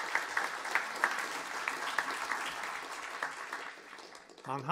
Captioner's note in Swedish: applåder